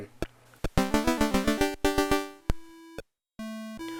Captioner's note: jaunty C64 sound effect